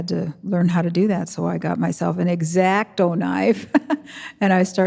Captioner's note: chuckling